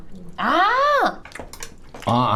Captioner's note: tap tap